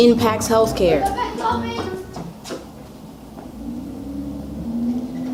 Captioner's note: children shouting